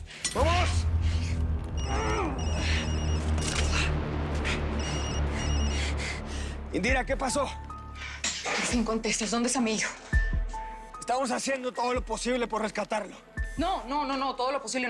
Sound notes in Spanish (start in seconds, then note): 2.3 Suena el celular; 3.0 Quejidos